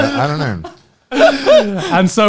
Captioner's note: laughing